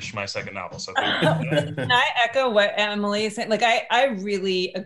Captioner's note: chuckles